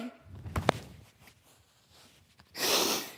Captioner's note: rustling fabric; clunk; sniffling